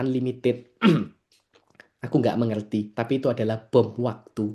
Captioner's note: berdehem